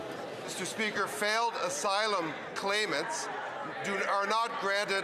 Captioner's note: some applause